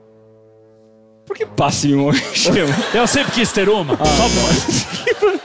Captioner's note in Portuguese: campainha